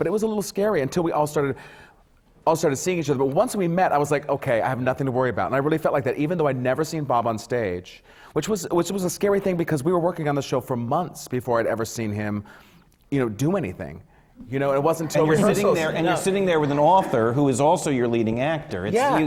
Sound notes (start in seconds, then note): 14.2 laughter